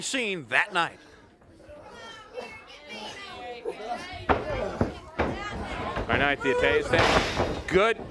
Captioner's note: crowd chatter